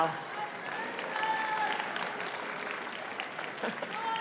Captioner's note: audience applauds